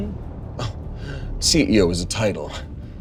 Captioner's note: scoffs